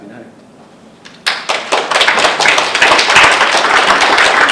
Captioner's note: audience applauding